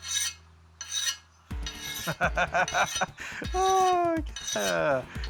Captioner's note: laughing